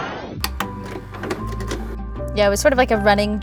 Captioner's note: lively music ends; videotape whirs; VCR clicks; bright music